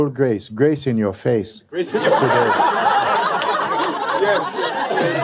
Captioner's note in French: rires